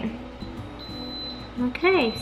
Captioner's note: beep beep